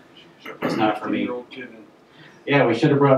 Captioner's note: voiceover